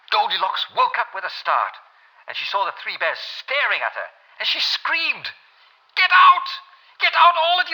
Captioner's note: German accent